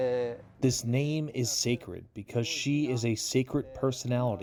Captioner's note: through translator